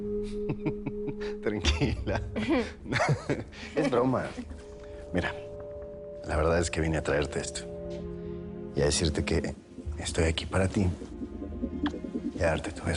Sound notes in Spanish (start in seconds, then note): 0.4 Risas